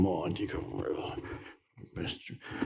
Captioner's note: groans